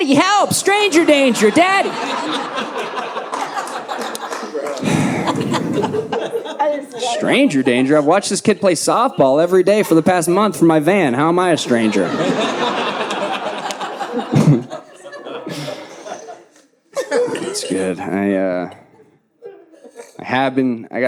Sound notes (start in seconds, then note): 3.4 audience laughing; 14.9 audience laughing